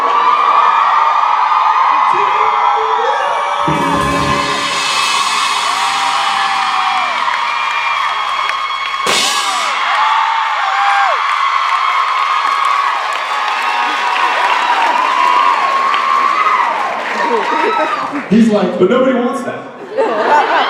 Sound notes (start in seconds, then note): 0.0 belting more aggressively; 0.0 riffing; 0.3 audience cheering; 3.6 cymbals ringing; 5.3 audience cheering; 9.2 cheering continues; 9.2 cymbal clashes